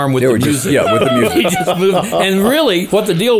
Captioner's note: co-host laughing